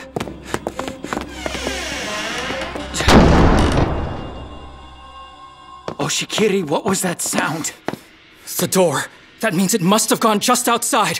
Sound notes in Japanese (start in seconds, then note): 2.9 扉が閉まる音